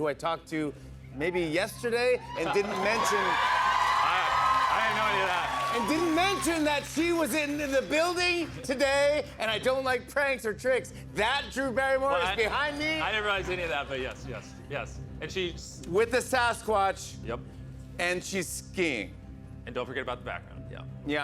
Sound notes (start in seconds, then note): 3.7 cheers and applause